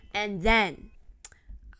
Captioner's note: tongue click